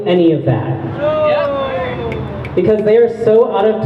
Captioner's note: crowd boos